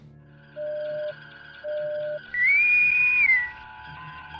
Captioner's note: boatswain whistle sounds